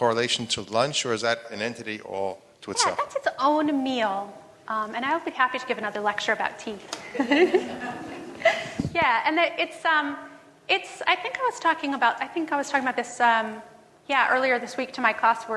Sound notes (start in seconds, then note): 7.1 laughs